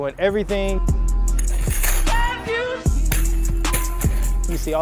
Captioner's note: football rattling